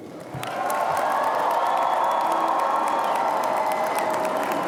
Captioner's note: audience applauding